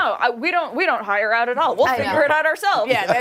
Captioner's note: laughter